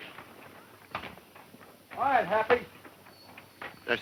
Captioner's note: horses galloping